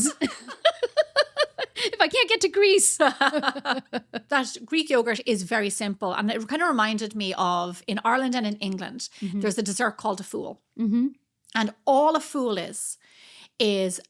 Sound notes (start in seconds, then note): 0.0 laughing